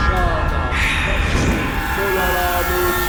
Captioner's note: hissing; speaking foreign language